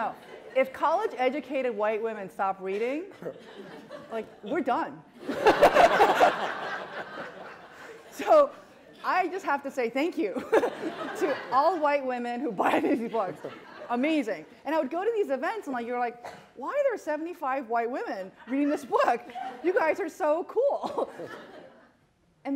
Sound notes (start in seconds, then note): 5.2 laughter